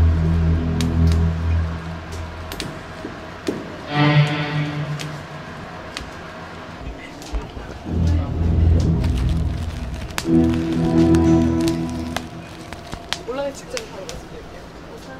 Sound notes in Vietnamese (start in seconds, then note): 9.9 pop pop